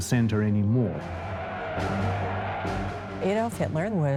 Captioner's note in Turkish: Kalabalık tezahürat ediyor